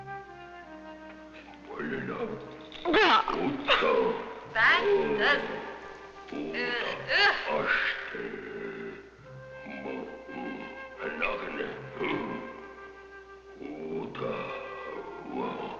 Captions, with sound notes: (choking) That does it. (grunting) (speaking in a foreign language)